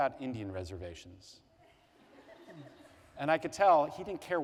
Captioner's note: laughter